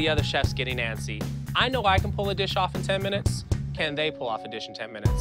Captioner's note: none